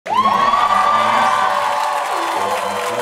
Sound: cheering and applause

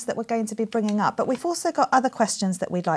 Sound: none

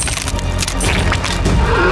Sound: blood splurts; bone cracking

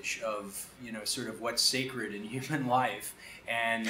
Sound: chuckles

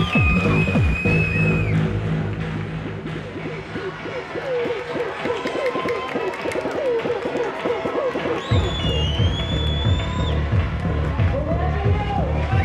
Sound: cheering

